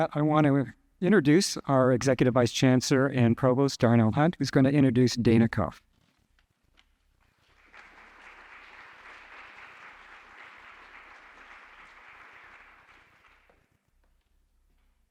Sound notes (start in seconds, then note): 7.4 audience applauding